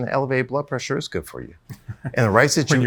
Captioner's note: chuckles